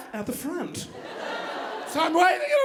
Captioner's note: audience laughing